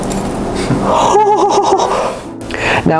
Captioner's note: more happy sounds